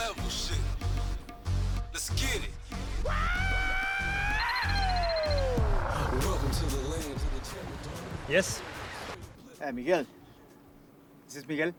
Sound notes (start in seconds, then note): 4.8 phone rings